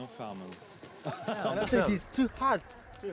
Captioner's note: laughing